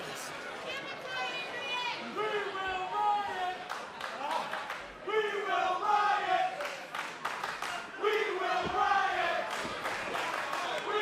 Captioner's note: crowd cheering